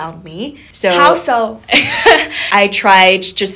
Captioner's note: laughing